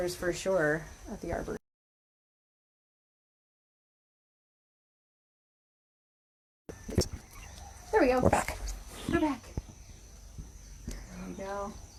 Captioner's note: audio cuts out